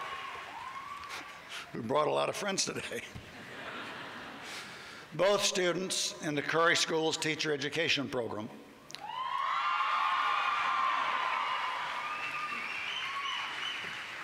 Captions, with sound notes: --who brought a lot of friends today. Both students in the Curry School's teacher education program-- [CHEERING]